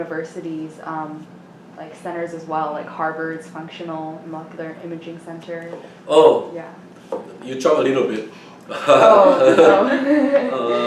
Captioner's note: laughs